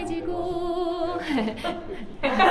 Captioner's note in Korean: 웃음